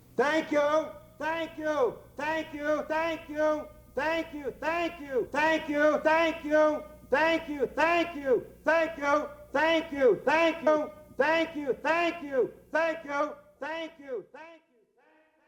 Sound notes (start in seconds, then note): none